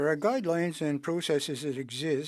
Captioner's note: speaking French